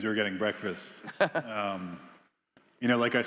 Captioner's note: Biz laughing